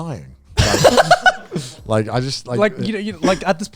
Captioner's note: laughing